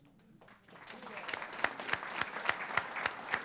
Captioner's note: applause